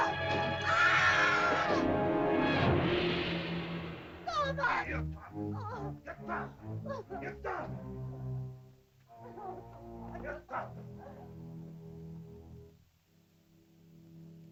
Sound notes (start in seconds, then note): 0.2 suspenseful music; 0.5 woman screams; 2.0 suspenseful music; 4.7 Akhoba grunts; 6.0 Akhoba speaks angrily in caveman language; 8.8 ominous music; 10.1 Akhoba speaks angrily in caveman language; 13.9 soft music